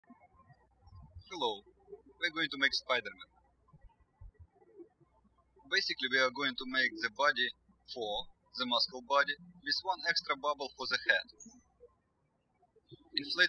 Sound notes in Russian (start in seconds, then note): 0.8 птички щебечут; 4.5 птички щебечут